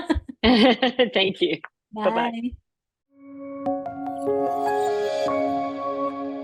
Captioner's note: laughs